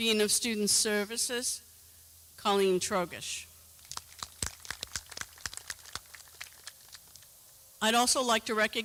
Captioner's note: clapping